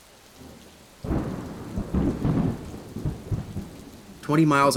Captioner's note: thunder